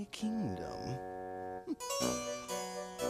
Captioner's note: humphs